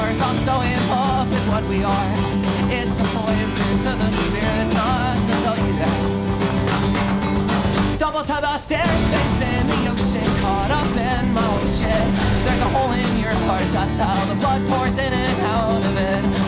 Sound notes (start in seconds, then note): 8.7 nasty f***ing parry sound